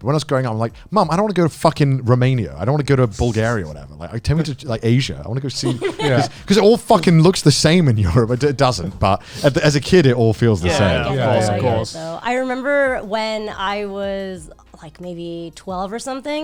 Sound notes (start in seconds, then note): 10.6 group agreeing